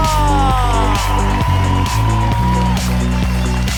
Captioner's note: people cheering